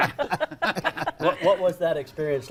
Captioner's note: laughter